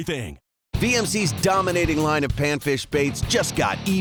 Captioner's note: voiceover